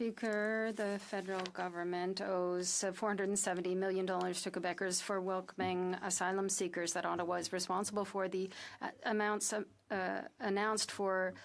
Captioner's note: speaking French